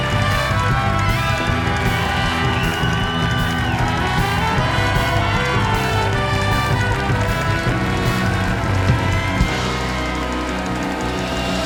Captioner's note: cheers and applause